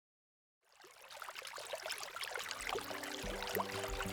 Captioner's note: water splashing